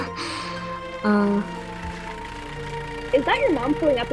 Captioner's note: lucy does something halfway between a laugh and an exhale; car noises